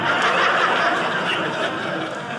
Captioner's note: audience laughing